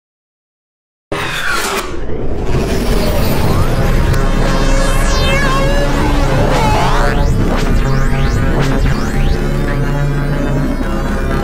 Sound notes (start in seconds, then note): 1.2 sound of morphing